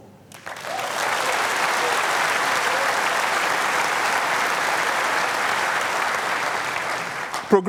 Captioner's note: applause